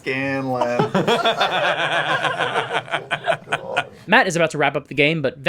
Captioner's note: all laugh